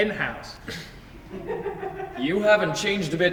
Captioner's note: audience laughs softly